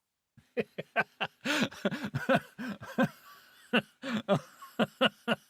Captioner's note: laughing